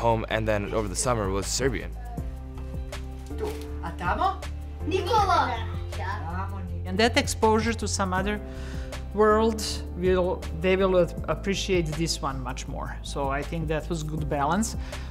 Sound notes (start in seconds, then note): 3.5 grandmother speaks in foreign language; 5.0 speaks in foreign language